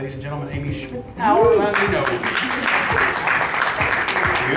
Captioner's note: applause